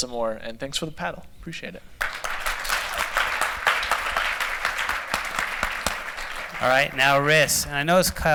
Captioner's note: applause